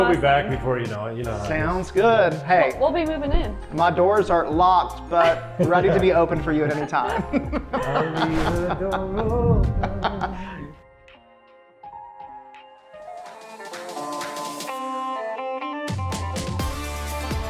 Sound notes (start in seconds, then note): 6.5 laughs; 11.8 pleasant music; 13.6 upbeat country music